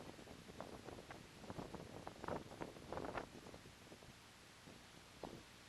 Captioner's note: sound - Wind noise across the microphone